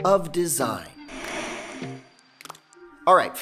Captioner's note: static